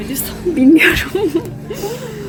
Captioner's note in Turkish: gülüşmeler